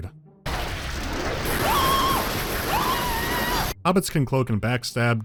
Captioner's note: scream